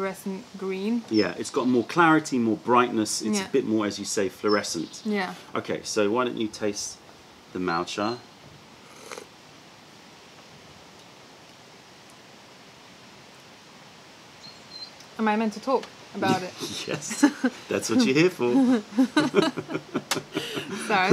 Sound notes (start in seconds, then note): 8.9 sips tea; 16.5 laughter